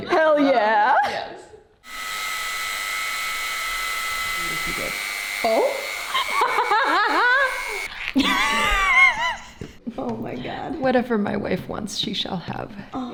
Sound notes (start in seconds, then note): 1.8 drill buzzing; 7.8 laughs; 8.2 wheezes